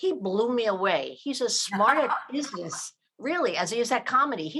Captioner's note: laughing